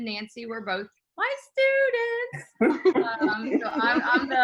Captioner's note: laughing